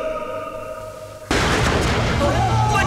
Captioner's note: Gunshot